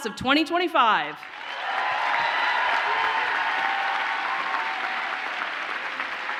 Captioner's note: audience cheers and applauds